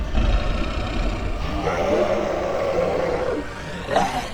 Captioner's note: creature roaring